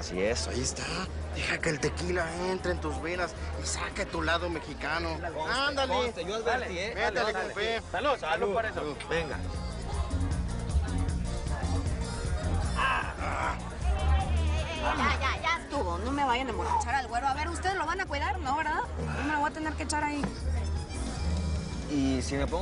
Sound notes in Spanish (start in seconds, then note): 6.1 Hablan al unísono